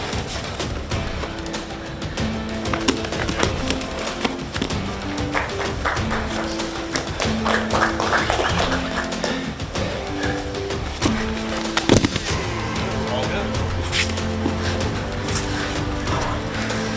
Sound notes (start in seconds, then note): 3.4 audience clapping; 3.4 man thudding; 11.9 thudding